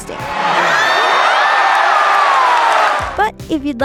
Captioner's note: audience cheers and claps